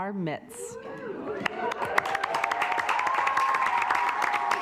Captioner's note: assembly cheering